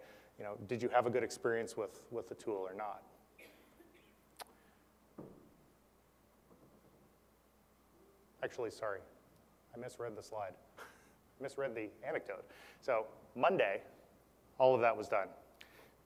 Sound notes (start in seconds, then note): 10.9 laugh